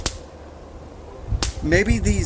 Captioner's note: twigs snapping